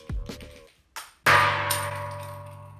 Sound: bean rattling; bean twanging; bean clacking

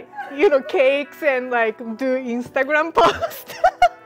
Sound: laughing

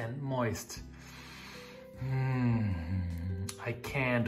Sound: inhales

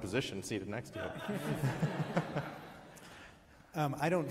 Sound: giggles

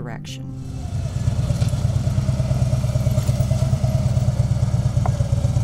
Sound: motorcycle engine roaring

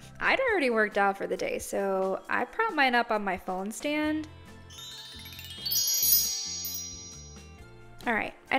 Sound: magic sparkle noise

